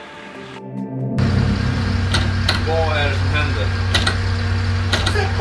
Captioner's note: loud roaring engine humming